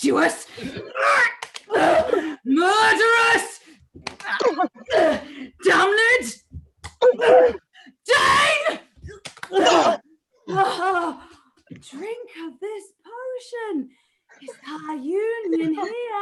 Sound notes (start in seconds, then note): 6.4 grunt